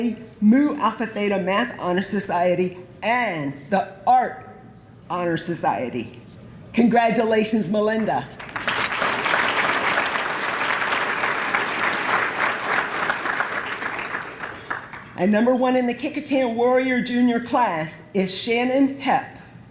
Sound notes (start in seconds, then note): 8.3 applause